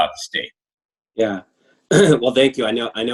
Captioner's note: clears throat